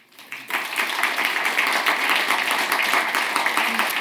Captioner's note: audience applauds